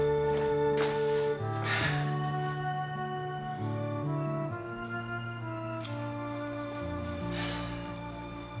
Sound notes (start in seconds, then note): 0.1 dramatic music; 1.6 Chris sighs